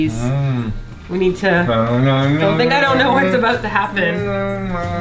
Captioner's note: hums Christmas music